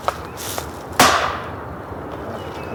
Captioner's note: banging sound